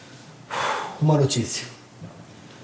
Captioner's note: sigh